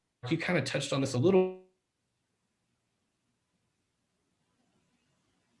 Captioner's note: technical interference